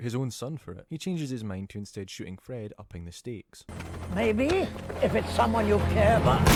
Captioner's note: gunshots